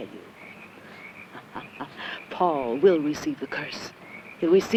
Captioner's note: laughing